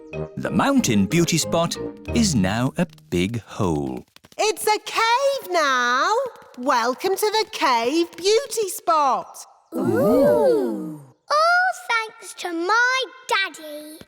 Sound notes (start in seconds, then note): 4.1 echoing